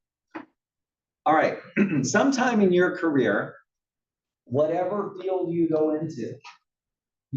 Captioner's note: cough